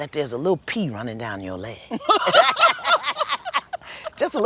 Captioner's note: laughter